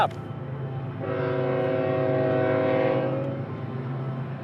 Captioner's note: train horn blaring